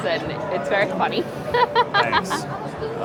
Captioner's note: laughs